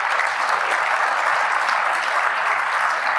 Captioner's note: applause